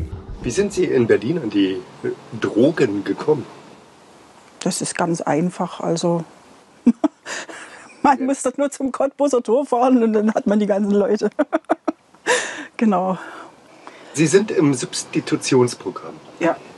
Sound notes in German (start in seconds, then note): 6.8 lacht auf